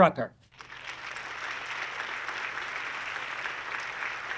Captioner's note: audience clapping